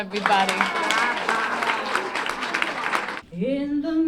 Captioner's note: clapping